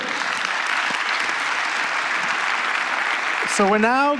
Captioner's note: applause